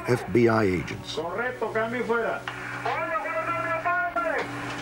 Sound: speaking spanish

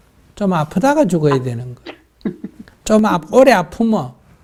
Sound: questioner Laughter

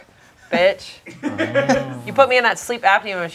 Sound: group laughing

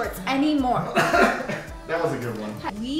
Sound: coughs

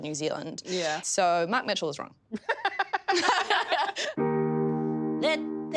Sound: all laugh

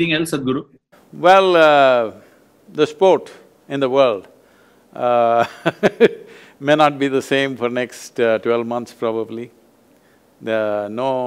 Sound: laughs

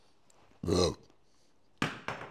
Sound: burp

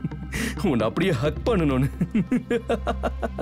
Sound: giggling

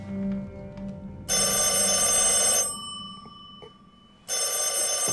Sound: doorbell buzzing

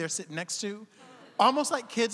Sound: audience laughing

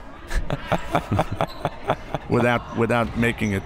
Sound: laughs

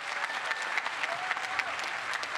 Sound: applause

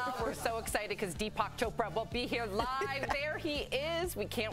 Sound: laughter

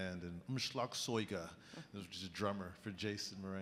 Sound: speaking in a foreign language

